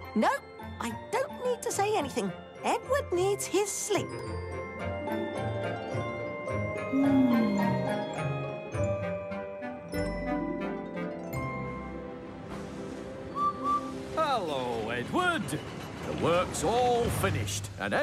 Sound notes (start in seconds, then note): 13.3 whistles